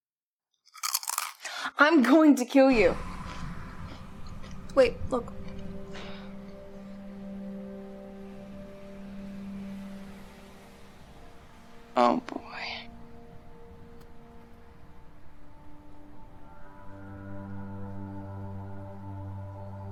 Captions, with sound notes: [ loud crunch ] I'm going to kill you. [ suspenseful music ] Wait, look. Oh, boy.